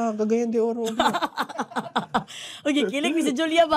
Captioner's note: laughing